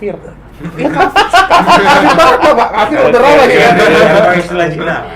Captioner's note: laughter